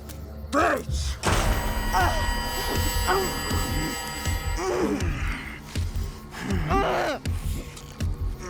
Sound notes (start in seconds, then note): 0.8 dramatic music; 2.0 Dorothy grunting